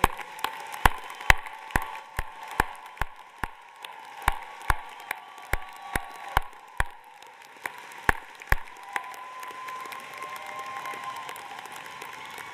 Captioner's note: applause